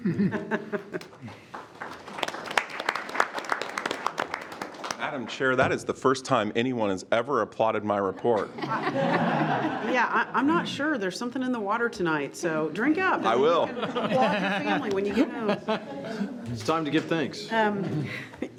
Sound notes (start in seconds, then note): 0.0 laughs; 2.0 all clapping; 8.2 all laughs